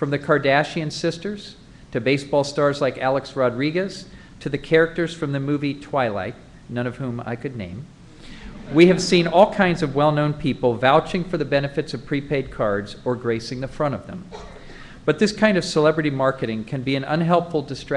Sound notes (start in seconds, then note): 8.5 laughter